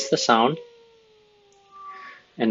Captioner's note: wolf howling